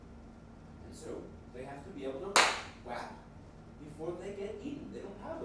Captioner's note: clapping noise